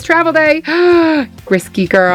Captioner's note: gasps